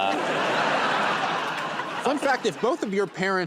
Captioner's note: laughter